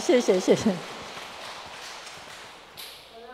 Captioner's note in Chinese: 眾人鼓掌